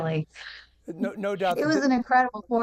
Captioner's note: laughing